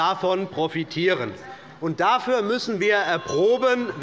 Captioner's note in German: Unruhe - Glockenzeichen des Präsidenten